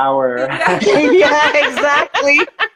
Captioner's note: laughing